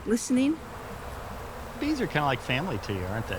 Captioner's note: buzzing